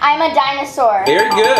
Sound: bell dinging

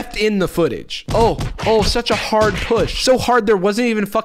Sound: punching sound effects

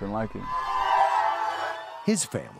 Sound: cheering

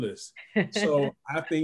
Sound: laughter

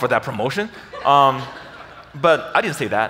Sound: audience laughs

